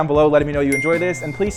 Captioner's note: bell dings